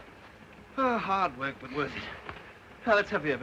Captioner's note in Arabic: آيريس تتنهد